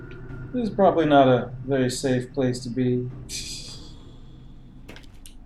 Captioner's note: titters